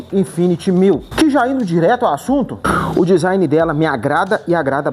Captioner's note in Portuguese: limpando a garganta